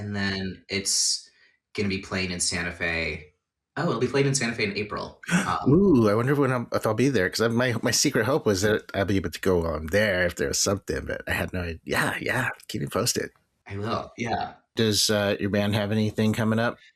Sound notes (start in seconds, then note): 5.3 gasps